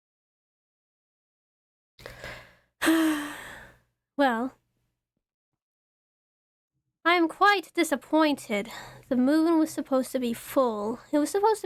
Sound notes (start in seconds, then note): 2.8 ROSE sighs